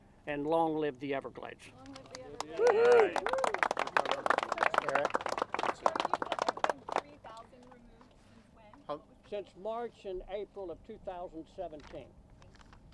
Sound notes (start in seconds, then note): 3.7 applause